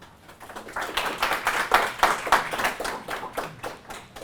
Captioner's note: audience applause